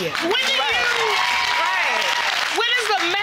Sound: audience clapping

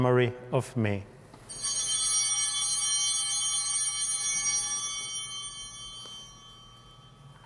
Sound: chimes ringing

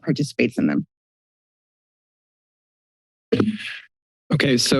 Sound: silence

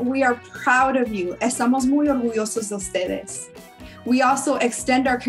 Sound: speaks in foreign language

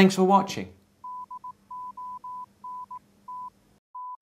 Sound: morse code sounds

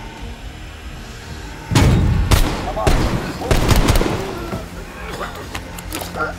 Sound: gunshots

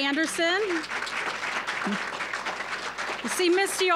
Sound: applause

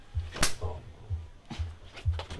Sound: slap!

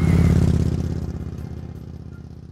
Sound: bike roaring

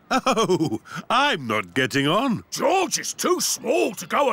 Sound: chuckling

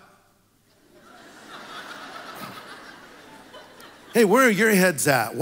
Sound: congregation laughs

